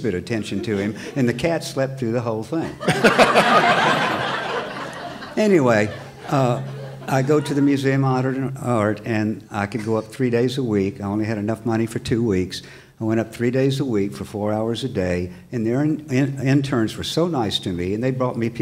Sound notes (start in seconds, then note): 2.6 laughter